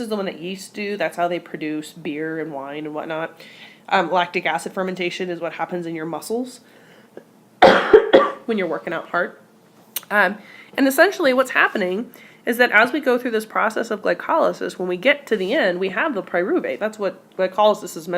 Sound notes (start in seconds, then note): 7.6 cough